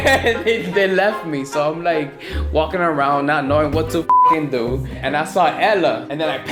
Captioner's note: beep